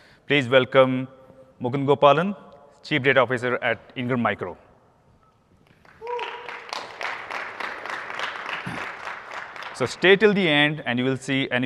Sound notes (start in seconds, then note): 5.6 applause